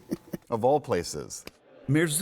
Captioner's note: laughter